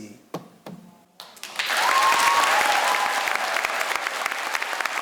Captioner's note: crowd cheers and applauds